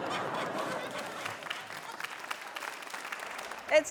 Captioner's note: laughter, applause